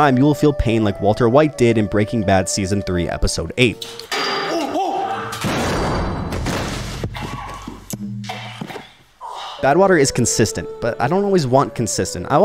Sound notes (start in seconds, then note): 3.8 metal clanks; 4.4 man yelling; 5.4 man thuds; 5.5 vat clanks; 6.7 man groaning